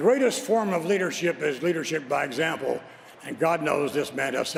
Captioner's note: applause